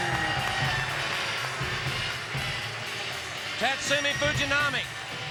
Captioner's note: crowd cheering